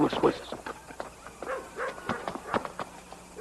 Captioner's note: barking